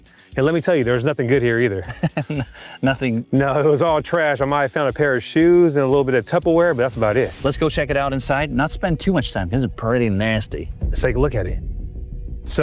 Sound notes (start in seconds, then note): 1.8 chuckles